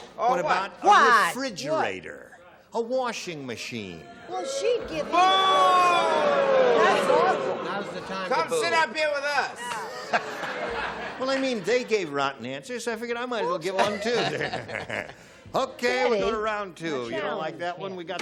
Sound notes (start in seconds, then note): 5.4 booing; 9.4 laughter